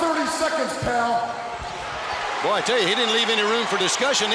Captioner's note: crowd cheering